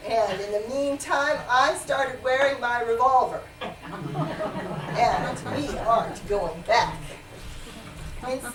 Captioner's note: laughter